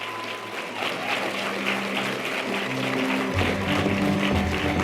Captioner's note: audience applause; string orchestral music